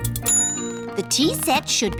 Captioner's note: bell dings